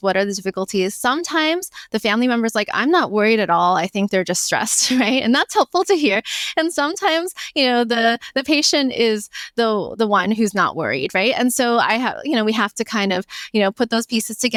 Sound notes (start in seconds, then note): 4.7 laughs